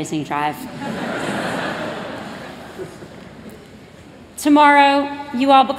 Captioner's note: laughter